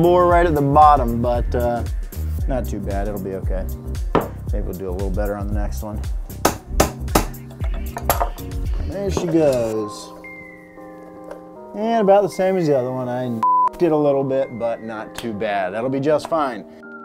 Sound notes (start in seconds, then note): 13.4 beep